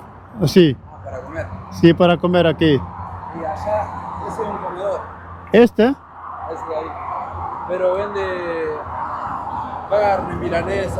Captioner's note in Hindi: स्पेनिश में बोलना